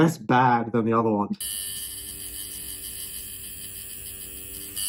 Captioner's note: machine whirring